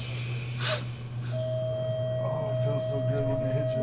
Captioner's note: man sniffs; electronic tone sounds